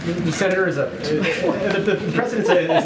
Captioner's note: laughs